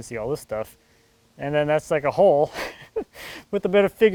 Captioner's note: laughs